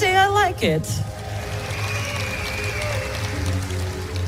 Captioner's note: Gritos